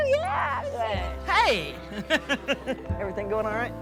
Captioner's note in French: gloussements